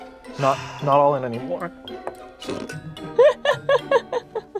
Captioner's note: snorts; laughing